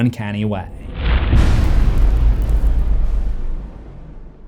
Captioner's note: impact